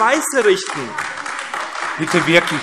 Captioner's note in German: Beifall AfD